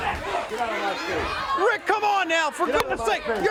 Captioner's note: crowd cheering